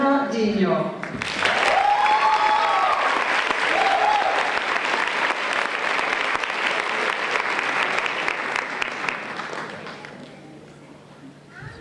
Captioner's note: applause